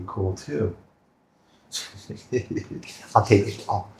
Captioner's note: laughing